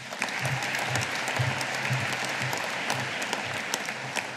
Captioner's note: audience applauding